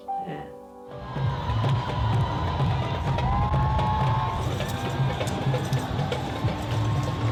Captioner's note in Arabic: تصفيق الجمهور; قرع الطبول